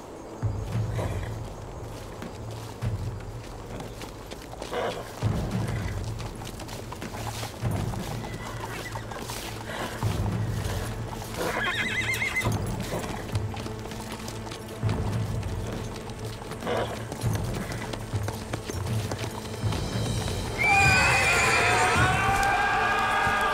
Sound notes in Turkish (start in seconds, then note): 0.3 Müzik - Gerilim; 11.4 At kişneme sesi; 13.3 Müzik - Gerilim; 20.5 Bağırma sesleri; 20.6 At kişneme sesi